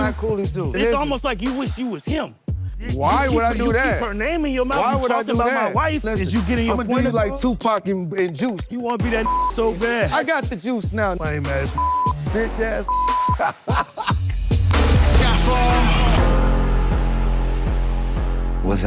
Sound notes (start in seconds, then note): 9.1 beep; 12.8 beep; 12.9 laughs; 15.6 dramatic music